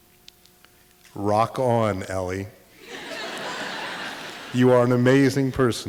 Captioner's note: audience laughter